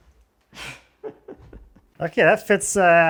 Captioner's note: laughs